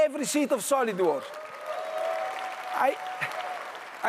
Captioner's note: audience applauds